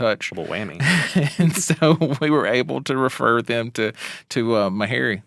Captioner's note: laughing